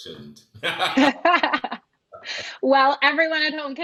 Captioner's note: both laughs